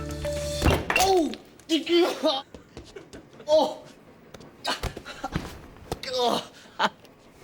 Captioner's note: groans; laughs